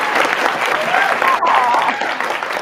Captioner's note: applause